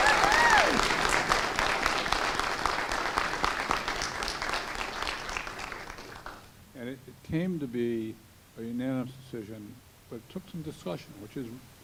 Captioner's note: cheers and applause